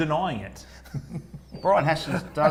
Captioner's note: laughing